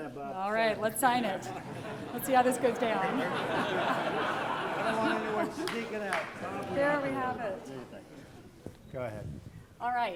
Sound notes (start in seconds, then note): 2.5 laughter